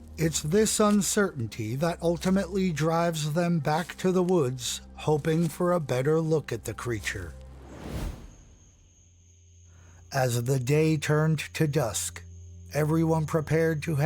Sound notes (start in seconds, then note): 7.5 air whooshing; 7.9 crickets chirping